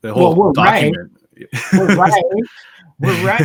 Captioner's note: laughs